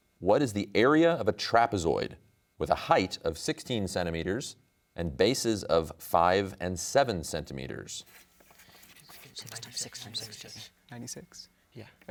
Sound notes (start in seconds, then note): 8.4 pencils writing; 9.1 team speaking softly